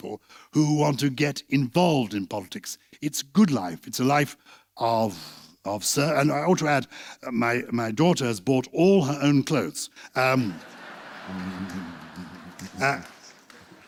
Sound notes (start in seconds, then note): 10.4 laughter